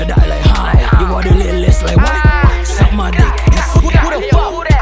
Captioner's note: Ahhhh